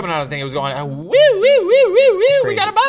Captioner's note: mimics beeping